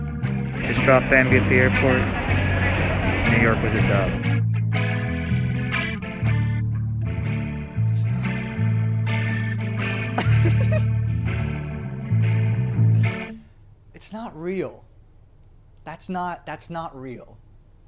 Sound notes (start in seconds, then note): 10.1 giggles